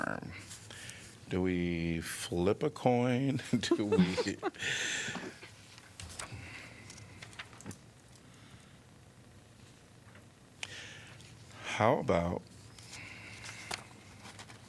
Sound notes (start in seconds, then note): 3.6 laughter